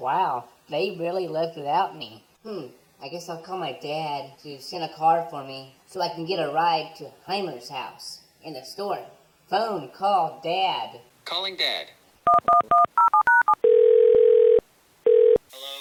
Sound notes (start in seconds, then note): 12.2 phone dials; 12.2 phone rings